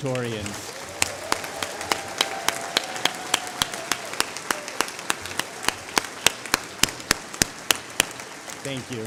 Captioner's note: applause